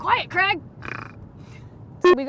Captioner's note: porcine snort